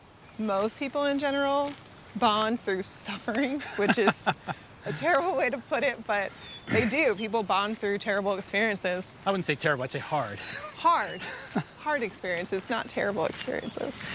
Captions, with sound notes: Most people in general, bond through suffering, which is a terrible way to put it, but they do. People bond through terrible experiences. - I wouldn't say terrible, I'd say hard. (chuckles) - Hard. (laughs) Hard experiences, not terrible experiences.